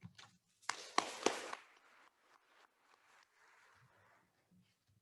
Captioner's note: attendees applauding